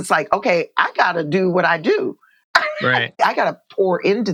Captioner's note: laughter